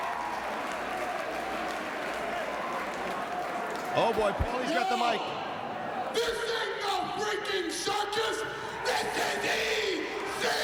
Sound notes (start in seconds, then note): 0.0 crowd cheering